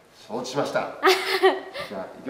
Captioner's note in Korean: 웃음